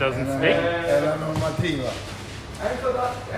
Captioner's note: speaking in foreign language